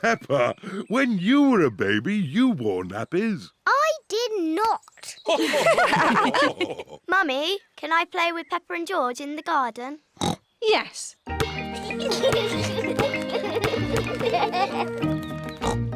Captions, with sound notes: Peppa, when you were a baby, you wore nappies. -I did not! -(OTHERS LAUGH) -Mummy, can I play with Peppa and George in the garden? -(OINKS) Yes. (YOUNGSTERS GIGGLE)